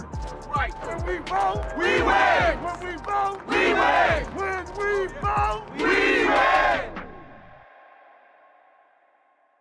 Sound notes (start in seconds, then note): 2.0 crowd; 3.7 crowd; 5.8 crowd